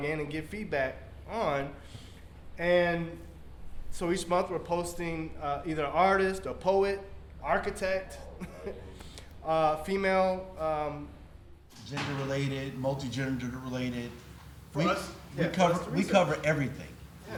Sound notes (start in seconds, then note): 8.2 laughs